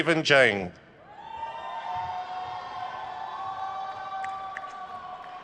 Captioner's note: crowd cheers